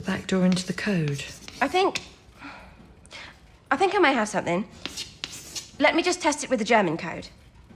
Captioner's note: scribbling on the blackboard